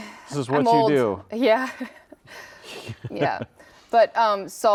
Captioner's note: laughs